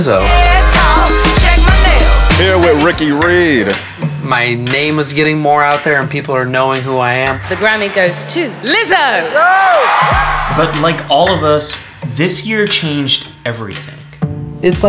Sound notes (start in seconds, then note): 9.2 crowd cheering